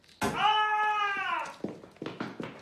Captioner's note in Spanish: Grito